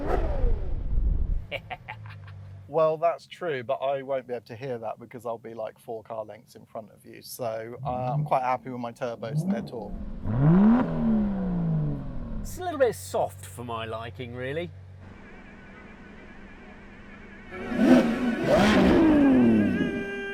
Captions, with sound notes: (HE LAUGHS) Well, that's true, but I won't be able to hear that because I'll be, like, four car lengths in front of you. So I'm quite happy with my turbos and their torque. (ENGINE REVS) It's a little bit soft for my liking, really. (ENGINE REVS)